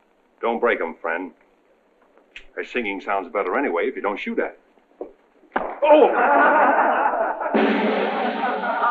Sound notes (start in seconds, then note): 5.8 men laughing; 7.4 drum roll